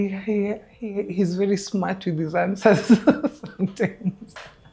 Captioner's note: laughing